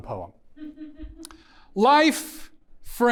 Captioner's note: audience member laughs